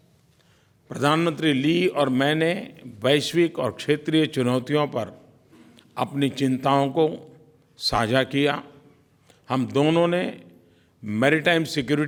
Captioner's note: PM Modi speaks in Hindi